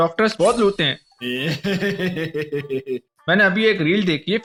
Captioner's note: greedy doctor evil laugh